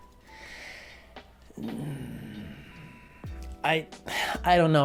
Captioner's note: sigh